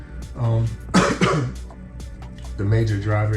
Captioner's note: coughs